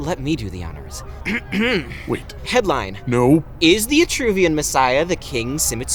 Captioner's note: clearing throat